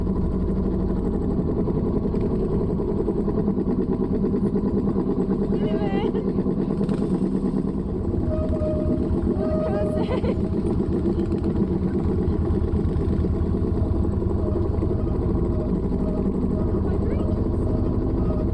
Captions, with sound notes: - Miriwe. - Murakoze. [laughing] [engine noise] - Hydrangeas!